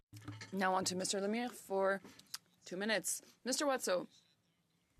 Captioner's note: speaking French